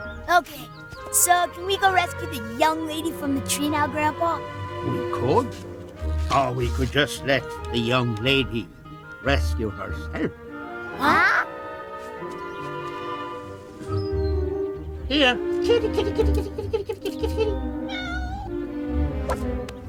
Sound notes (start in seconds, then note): 11.0 gasping in surprise; 17.7 cat meows